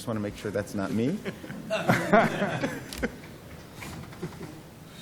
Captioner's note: laughter